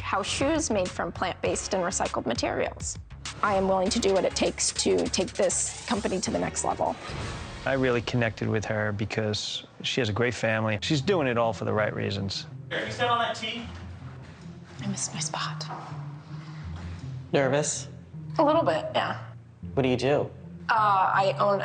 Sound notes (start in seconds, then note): 4.1 air whooshes; 6.9 air whooshes; 14.8 gentle suspenseful music